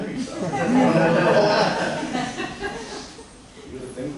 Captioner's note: laughter